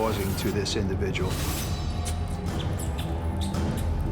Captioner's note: rat squeaking